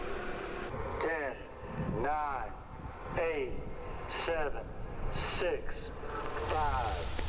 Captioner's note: voice on loud speaker; voice on loudspeaker, burning flare crackles